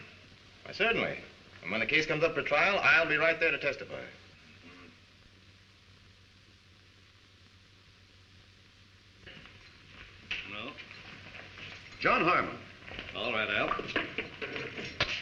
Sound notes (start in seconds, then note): none